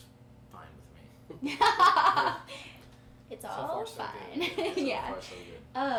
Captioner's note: laughing